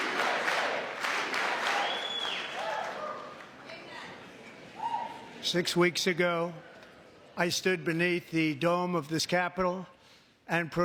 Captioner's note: chanting usa; cheering